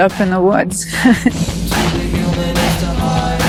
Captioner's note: laughs; heavy metal music